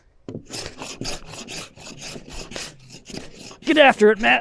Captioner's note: planer chafing